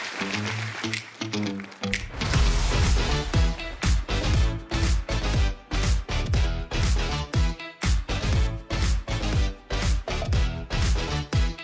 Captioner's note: applause